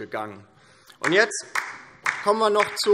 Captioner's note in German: Beifall DIE LINKE